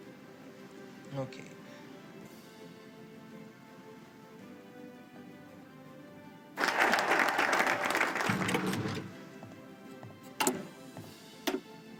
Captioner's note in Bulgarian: Ръкопляскания